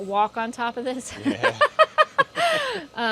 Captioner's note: laughs